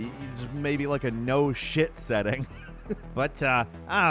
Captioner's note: laughs